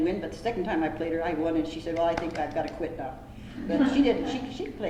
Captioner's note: laughter